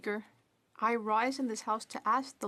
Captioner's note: speaking French